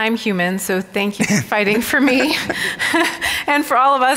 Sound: laughs

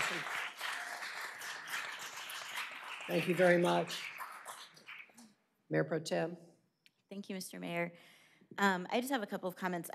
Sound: applause

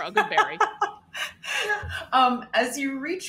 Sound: laughs

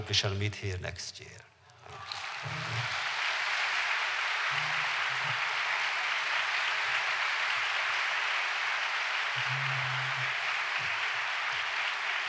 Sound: applause

